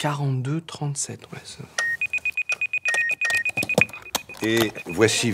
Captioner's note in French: Bruit d'alarme